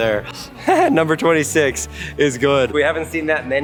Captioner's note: laughs